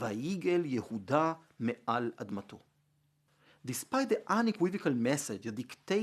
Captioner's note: Hebrew